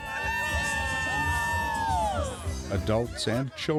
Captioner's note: screaming